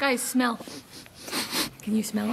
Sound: people sniffing

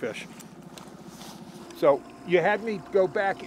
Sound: boat engine idling

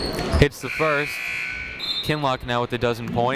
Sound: buzzer ringing

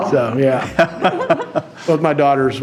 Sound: laughing

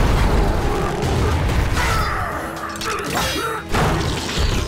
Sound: grunting

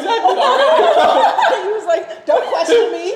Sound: laughing

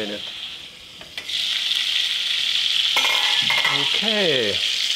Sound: fat sizzling

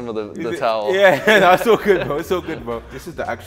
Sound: both laughing

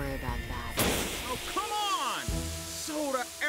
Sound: can explodes

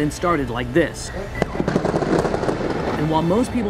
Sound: gun fire

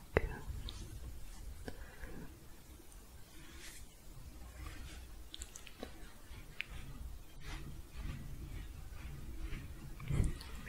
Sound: sporatic shuffling

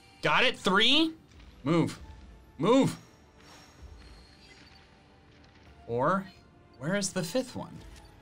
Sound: none

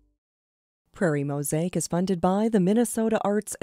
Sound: voiceover

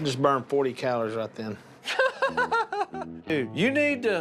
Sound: laughs

